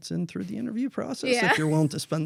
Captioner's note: laughs